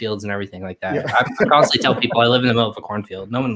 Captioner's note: laughs